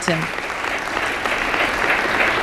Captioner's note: applause